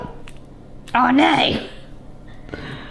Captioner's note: avocado scrunches